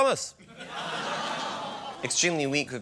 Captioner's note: laughter